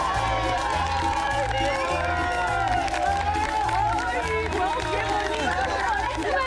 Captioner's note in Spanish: vítores